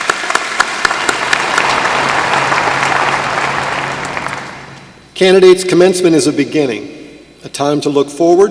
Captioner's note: applause